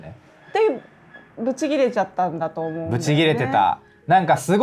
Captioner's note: laughs